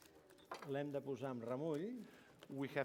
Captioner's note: non-english speech